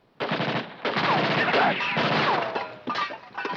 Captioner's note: guns firing